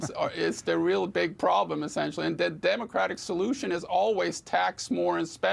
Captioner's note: laughter